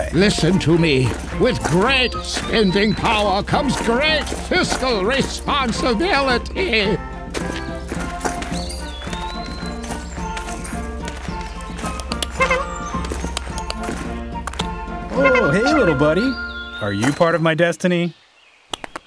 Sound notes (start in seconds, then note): 7.6 footsteps crunching; 12.3 squirrel chittering